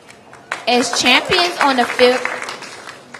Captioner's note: applause